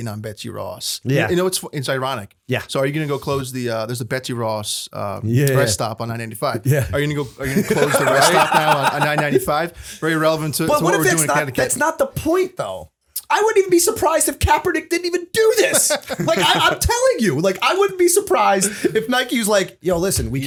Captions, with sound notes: hating on Betsy Ross?" 37:11 SJ: Yeah. 37:11 PP: You know, it's ironic. 37:13 SJ: Yeah. 37:13 PP: So are you gonna close the... There's a Betsy Ross rest stop on I-95. 37:15 SJ: Yeah. 37:16 PP: Are you gonna close the rest stop now on I-95? [laughter] 37:20 PP: Pretty relevant to what we're doing... 37:22 SJ: But what if it's not... That's not the point though. I wouldn't even be surprised if Kaepernick didn't even do this. [chuckle] 37:26 SJ: I'm telling you, like I wouldn't be surprised if Nike's like, "Yo, listen.